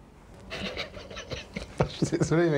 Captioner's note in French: rire